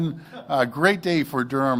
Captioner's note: laughter